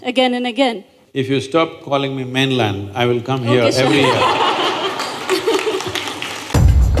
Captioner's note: laughter/Applause